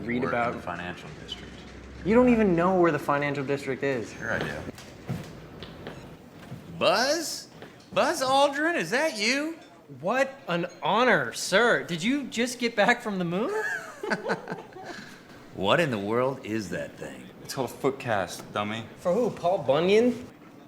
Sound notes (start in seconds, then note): 13.5 Gary and Justin laughing